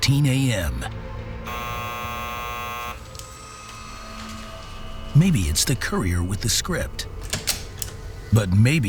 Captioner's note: buzzer rings